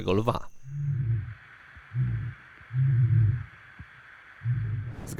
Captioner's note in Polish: ryczący lew